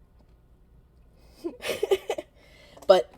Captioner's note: laughing